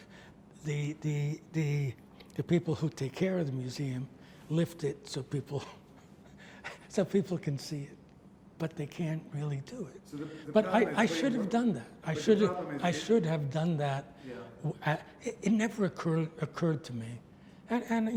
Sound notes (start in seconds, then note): 6.3 laughs